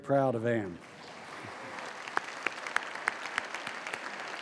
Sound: applause

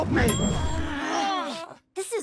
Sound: all groan

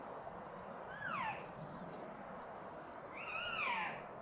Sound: caller cow calling

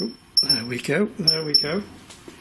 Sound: loud beeping

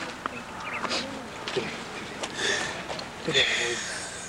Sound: crying

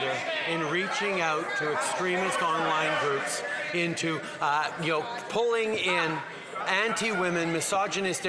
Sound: yelling

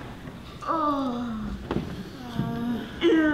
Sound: yawns

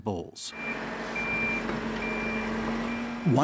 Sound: equipment beeping

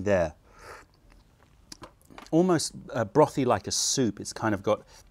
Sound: sips tea

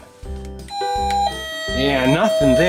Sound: doorbell chiming

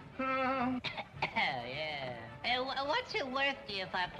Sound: coughing

